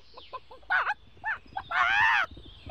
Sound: clucking; squawking in alarm

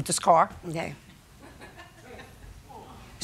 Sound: laughter

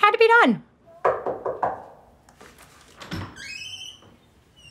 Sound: knocking

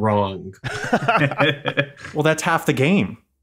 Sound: laughing

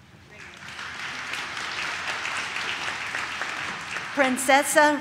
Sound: audience claps

